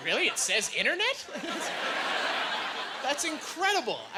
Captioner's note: laughing